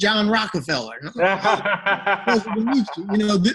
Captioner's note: laughing